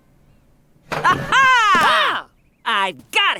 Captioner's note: shouting